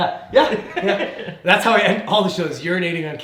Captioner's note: laughing